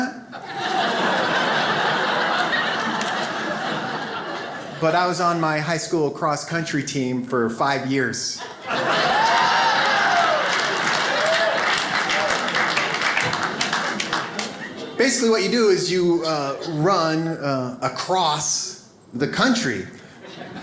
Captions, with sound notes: (audience laughs) but I was on my high school cross-country team for five years. (audience applauding) Basically what you do is you run across the country.